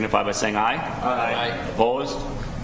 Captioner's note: multiple Voices